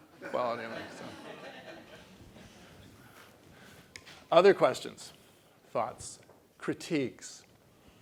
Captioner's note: laugh